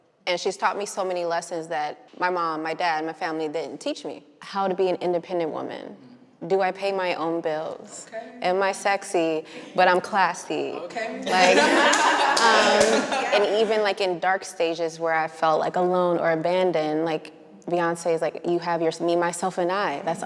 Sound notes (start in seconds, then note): 11.2 everyone laughing; 11.4 clapping